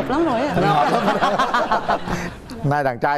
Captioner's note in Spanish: risas